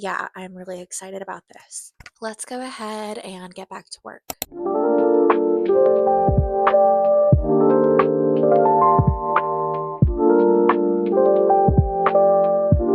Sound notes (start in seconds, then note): 4.3 click